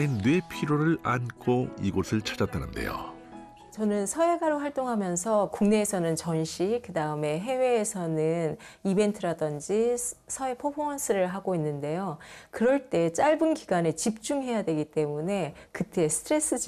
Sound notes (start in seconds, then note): 3.4 voiceover